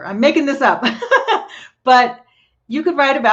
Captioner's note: laughs